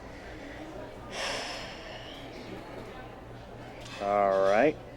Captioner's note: Angel gasps